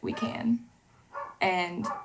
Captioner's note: dog barking